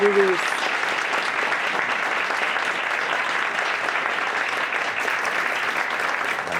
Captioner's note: audience applauds